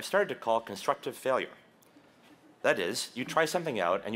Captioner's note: none